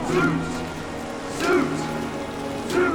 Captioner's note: chanting